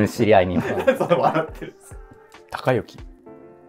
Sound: laughing

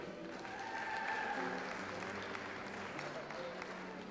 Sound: audience applauds

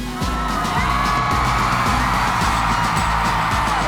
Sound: all cheering

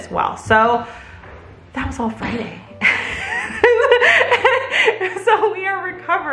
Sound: laughs

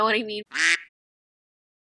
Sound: quack

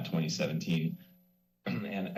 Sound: clears throat

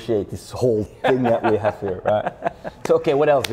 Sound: laughs

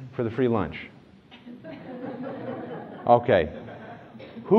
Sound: laughter

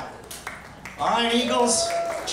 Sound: crowd cheering and applauding

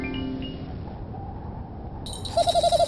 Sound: magical harp scales; wind howl; bells jingle and Smelf giggle

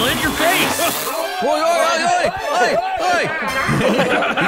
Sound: cheering and frustrating

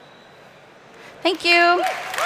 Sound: cheering and Applause

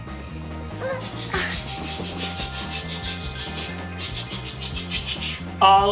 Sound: making choo choo sounds

